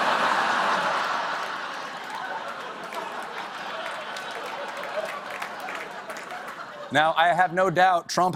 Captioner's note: laughter